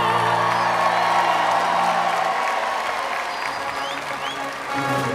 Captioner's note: crowd applauds; instrumental music